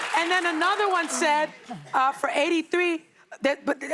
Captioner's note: applause